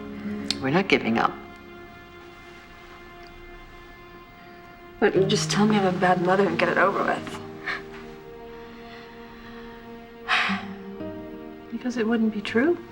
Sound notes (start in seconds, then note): 10.0 exhales